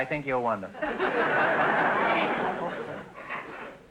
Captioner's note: audience laughter